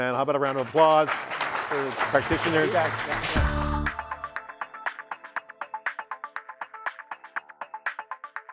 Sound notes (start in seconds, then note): 2.7 audience applauds; 3.6 upbeat music